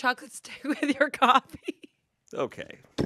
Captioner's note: laughs